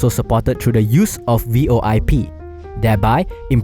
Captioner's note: voice over IP